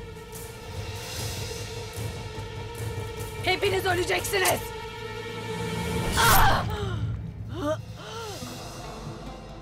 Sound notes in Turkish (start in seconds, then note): 0.0 Müzik - Gerilim; 6.0 Kılıç sesi; 8.0 Nefes sesi